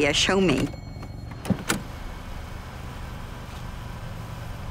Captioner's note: car door opening